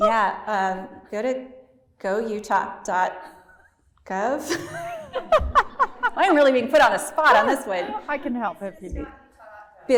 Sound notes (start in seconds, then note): 2.3 laughter